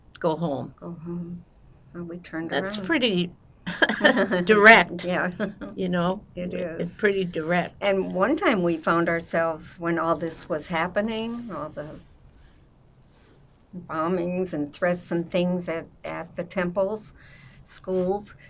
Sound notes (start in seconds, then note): 3.7 laughing